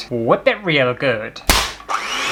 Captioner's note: whip!; mixing Noise